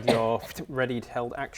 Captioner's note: pftoo